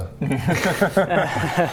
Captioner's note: nice-try laugh